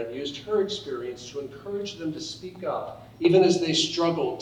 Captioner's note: none